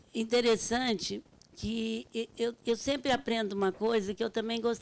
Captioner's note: speaking Portuguese